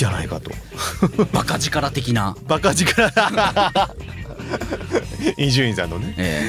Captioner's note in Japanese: 笑い